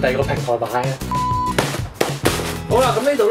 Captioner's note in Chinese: 啪x3